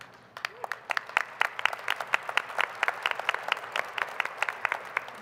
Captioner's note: applause